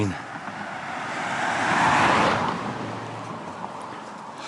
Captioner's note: passing Traffic